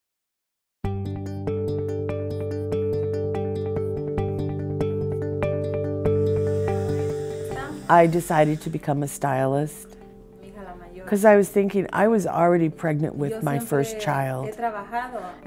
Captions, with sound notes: (upbeat music) - [Voiceover] I decided to become a stylist cause I was thinking I was already pregnant with my first child.